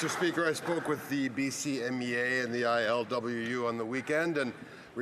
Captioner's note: some Applause